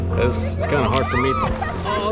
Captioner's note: indistinct Screaming